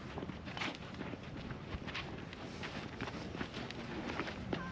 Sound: footsteps

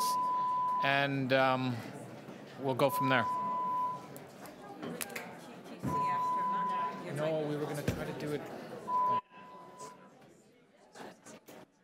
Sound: fire alarm sounding

